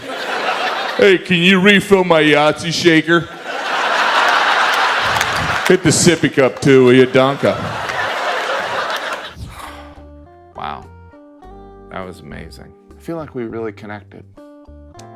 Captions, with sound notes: (audience laughs) Hey, can you refill my Yahtzee shaker? (audience laughs) Hit the sippy cup too, will ya? Danke. (air whooshes) (sighs) Wow, that was amazing. I feel like we really connected.